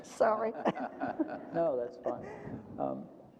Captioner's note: panel chuckles